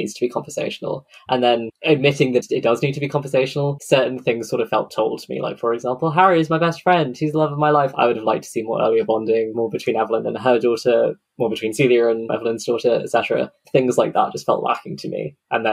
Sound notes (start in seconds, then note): none